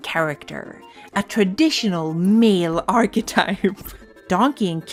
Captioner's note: laughs